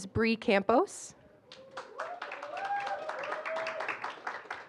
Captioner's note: applause